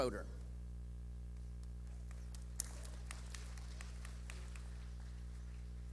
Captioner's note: clapping